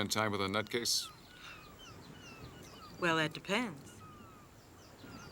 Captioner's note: laughs softly